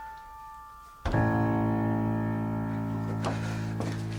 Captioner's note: Ira hits the door